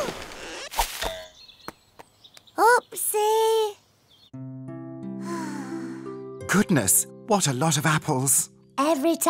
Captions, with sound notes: Oh! Oopsie. (princess sighs) Goodness. What a lot of apples.